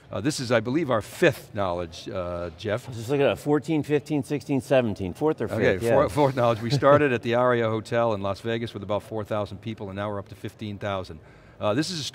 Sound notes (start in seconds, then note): 4.7 laughing